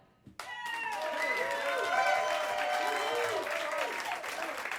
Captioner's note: cheers and applause